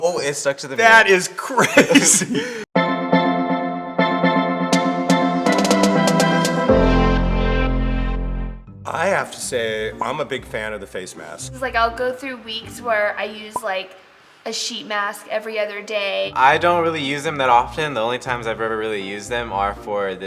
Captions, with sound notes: - Oh it stuck to the mirror. - That is crazy. (laughing) (upbeat music) I have to say, I'm a big fan of the face mask. - 'Cause like I'll go through weeks where I use like a sheet mask every other day. - I don't really use them that often. The only times I've ever really used them are for